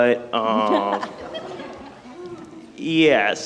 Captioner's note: people laughing